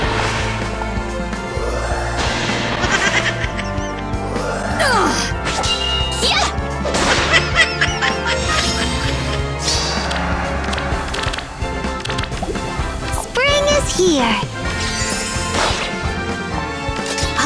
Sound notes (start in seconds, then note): 2.5 insert laughs here; 7.2 more laughs